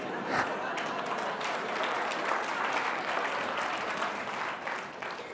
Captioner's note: laughter; applause